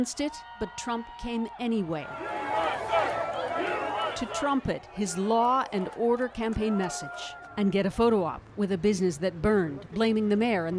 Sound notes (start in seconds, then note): 6.9 crowd noise